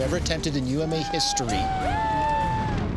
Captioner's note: cheering